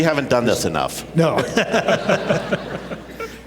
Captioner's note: laughter